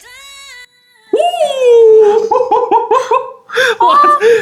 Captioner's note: cheers